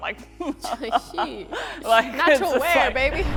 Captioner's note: laughing